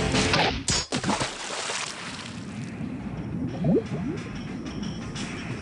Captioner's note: metal clink, water splashes